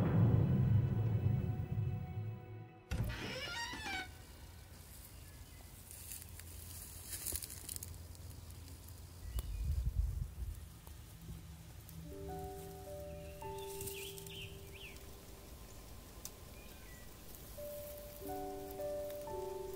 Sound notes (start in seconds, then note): 0.0 TARDIS materializing; 2.8 door opens